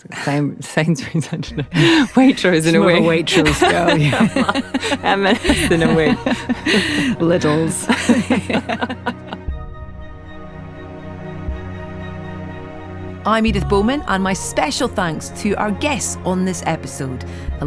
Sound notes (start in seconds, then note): 1.5 laughing; 4.6 laughing; 8.3 both laughing; 10.0 soft music